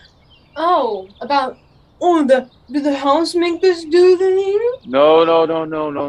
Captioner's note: she imitates Joseph